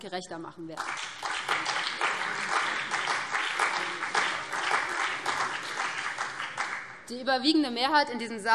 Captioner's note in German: Beifall BÜNDNIS 90/DIE GRÜNEN und vereinzelt CDU